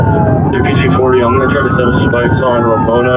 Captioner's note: radio